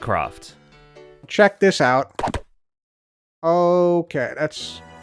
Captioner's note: thwack